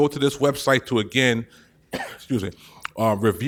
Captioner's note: coughs